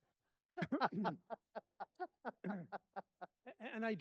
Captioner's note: laughing